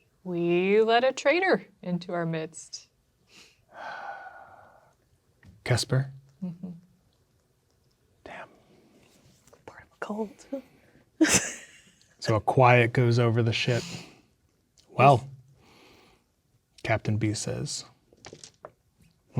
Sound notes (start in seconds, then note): 3.7 sighs; 11.5 laughs